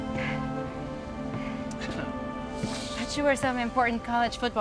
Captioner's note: Tommy laughs out of breath